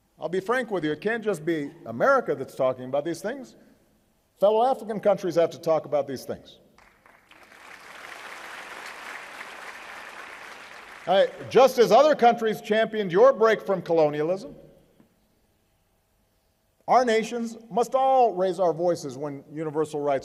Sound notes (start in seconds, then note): 9.5 applause